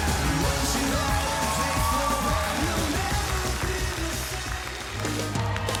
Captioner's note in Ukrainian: оплески